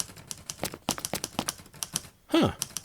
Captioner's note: typing